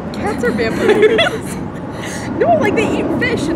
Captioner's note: both laugh